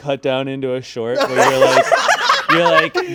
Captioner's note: all laughing